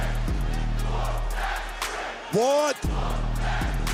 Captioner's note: crowd "whoop that trick"